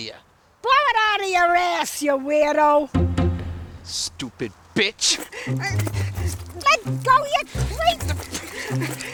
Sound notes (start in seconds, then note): 5.4 Katherine grunts; 5.4 intense music